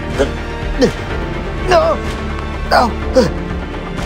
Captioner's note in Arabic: رجل يشخر